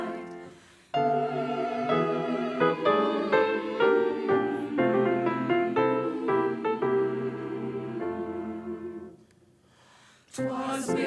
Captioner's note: humming bridal march